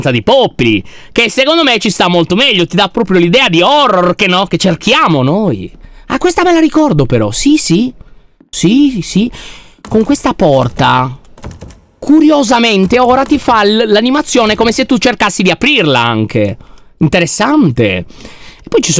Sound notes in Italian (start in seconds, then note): 9.8 porta sbatte